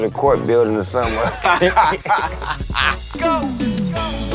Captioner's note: laughing